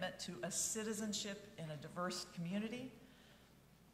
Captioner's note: none